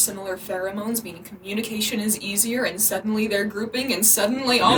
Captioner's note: audio warning